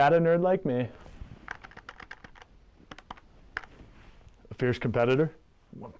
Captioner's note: typing sound